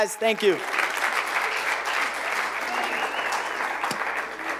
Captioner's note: applause